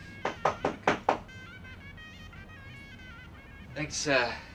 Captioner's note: knocking on the door